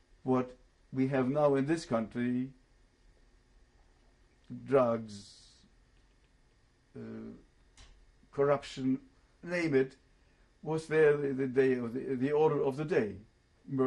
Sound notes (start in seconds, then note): 5.3 pauses for 3 seconds